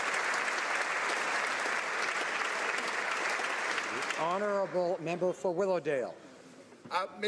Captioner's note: applause